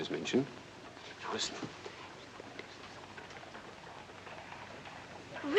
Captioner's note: whispering